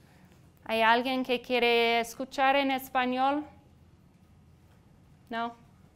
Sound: speaking in foreign language

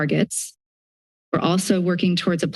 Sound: silence

